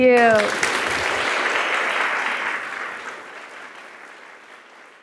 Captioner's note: audience applauding